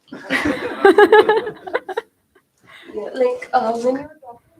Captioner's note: laughter